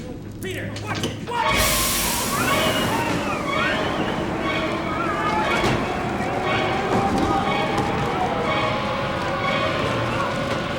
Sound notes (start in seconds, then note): 2.2 dramatic music; 4.5 wind blows